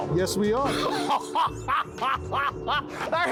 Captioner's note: laughing